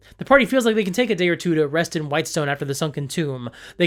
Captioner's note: none